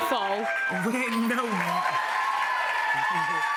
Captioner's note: cheers and applause